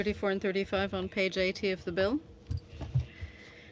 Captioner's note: speaking french